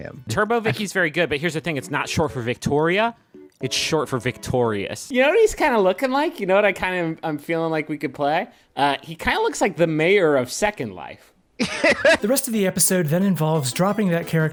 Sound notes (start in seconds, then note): 11.6 laughs